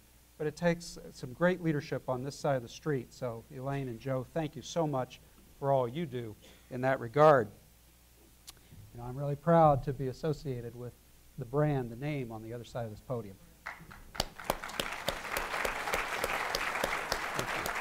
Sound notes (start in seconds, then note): 13.6 applause